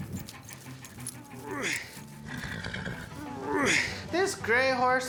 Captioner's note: grunting, horse blusters